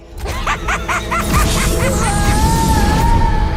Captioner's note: evil laughter